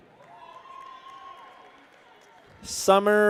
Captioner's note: people cheer